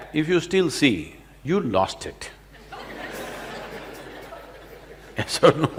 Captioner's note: laughter